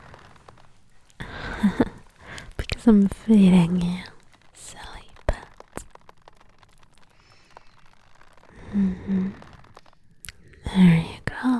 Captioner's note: chuckles